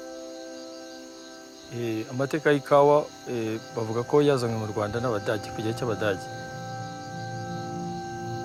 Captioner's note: man Speaking Kinyarwanda